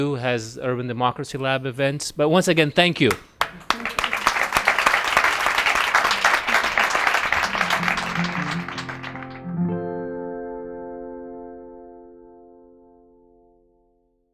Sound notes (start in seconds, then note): 3.1 audience applauds; 9.0 digital music